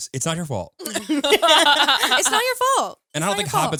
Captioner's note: all laughing